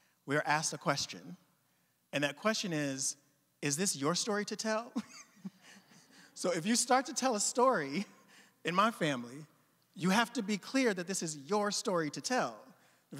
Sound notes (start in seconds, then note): 4.9 chuckling; 4.9 audience chuckling